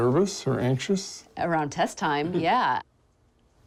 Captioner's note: chuckles